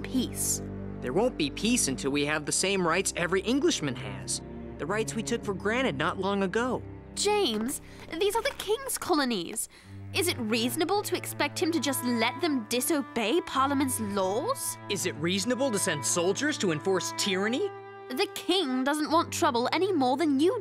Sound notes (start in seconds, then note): none